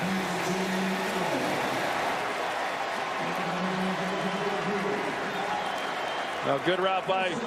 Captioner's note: cheers and applause